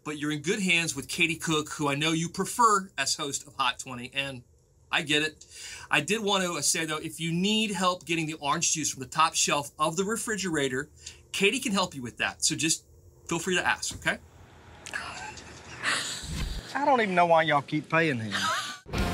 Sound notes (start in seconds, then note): 14.9 chuckling